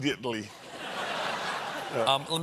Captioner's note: laughter